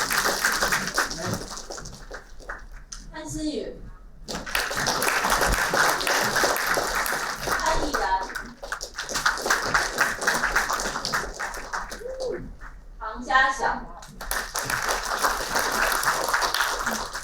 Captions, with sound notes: Xinyu Pan (applauding) Yiran Pan (applauding) Jiaxiao Pang (applauding)